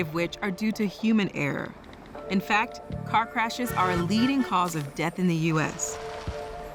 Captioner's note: car honking